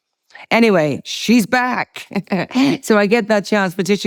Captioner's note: laughs